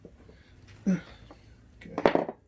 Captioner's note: man grunts